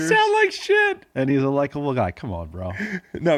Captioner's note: laughs